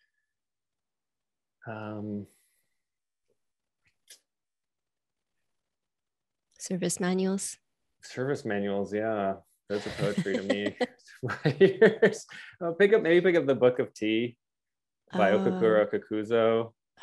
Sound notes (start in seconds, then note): 9.7 laughs; 11.2 chuckles